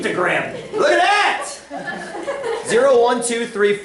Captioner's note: laughter